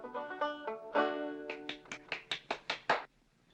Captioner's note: strumming strings; clapping